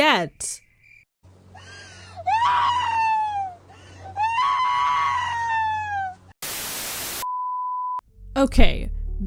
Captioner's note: Pearl crying + static